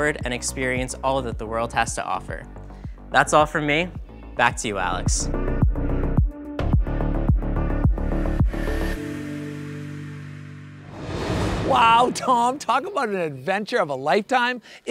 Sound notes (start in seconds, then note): 4.4 upbeat music; 10.8 air whooshing